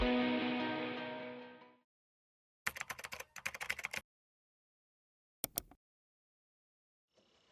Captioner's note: upbeat music; keyboard clacking